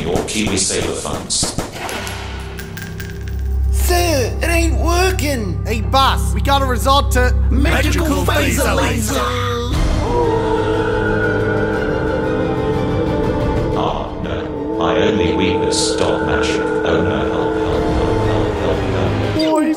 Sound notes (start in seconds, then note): 10.0 howling; 10.0 dramatic music